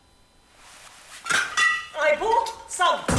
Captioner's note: clinking